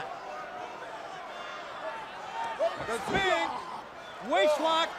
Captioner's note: crowd chatter